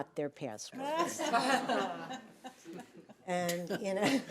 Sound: all laughing

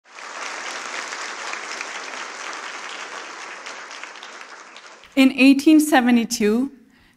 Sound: applause

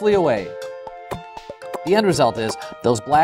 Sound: pop pop pop

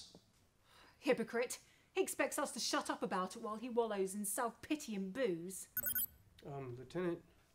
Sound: communicator continues to chirp

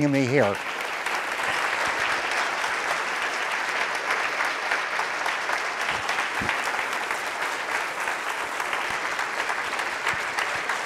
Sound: applause

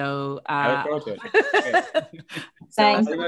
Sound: both laugh

